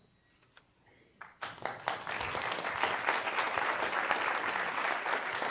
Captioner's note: applause